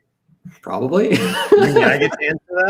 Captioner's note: laughs